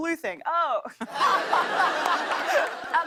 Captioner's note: laughter